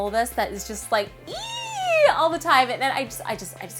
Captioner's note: squeaks